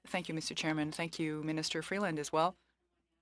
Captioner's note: speaking FRENCH